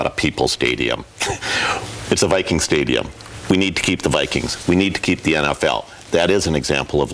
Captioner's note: laughs